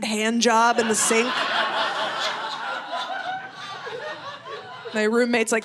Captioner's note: audience laughing